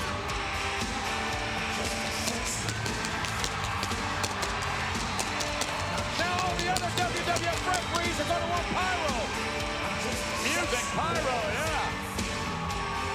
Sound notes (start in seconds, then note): 0.1 crowd cheering continues; 0.1 upbeat rock music continues; 4.5 fireworks popping